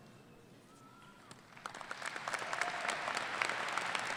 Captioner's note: applause